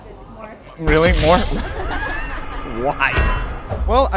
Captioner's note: laughs